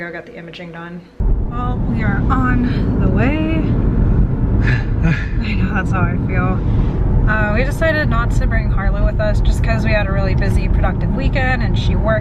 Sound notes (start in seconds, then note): 4.7 laughs